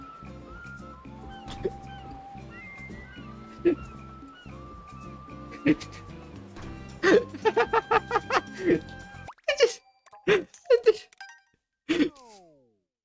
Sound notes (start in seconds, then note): 3.0 is currently dying of laughter; 7.0 strong laugh; 9.3 laughing; 10.2 laughter